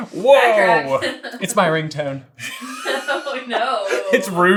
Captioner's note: laughter